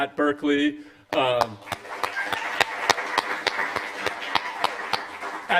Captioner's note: applause